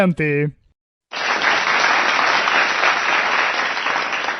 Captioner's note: applause